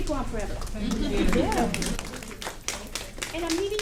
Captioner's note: audience Applauding